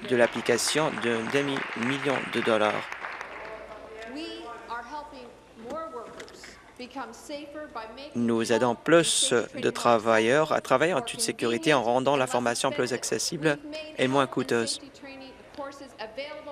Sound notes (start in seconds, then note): 2.8 applause